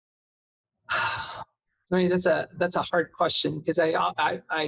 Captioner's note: sighs